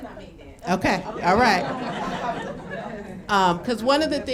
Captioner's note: laughing